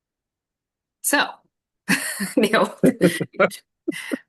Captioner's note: chuckles